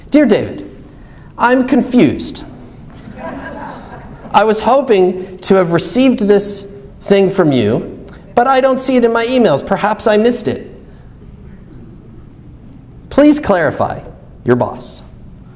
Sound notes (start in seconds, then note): 2.9 audience laughs